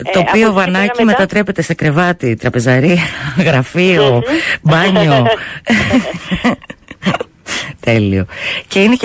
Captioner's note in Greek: γέλια